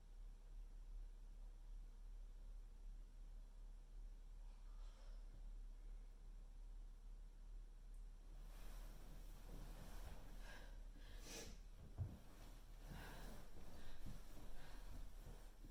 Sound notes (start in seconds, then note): 10.0 Leona sniffles; 13.0 Leona pants